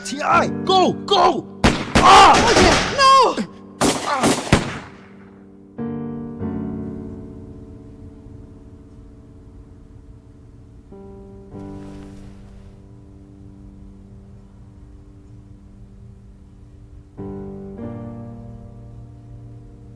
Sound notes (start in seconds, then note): 3.8 gunshots booming; 4.0 grunts; 4.3 slow somber music